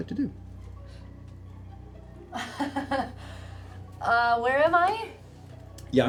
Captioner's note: laughs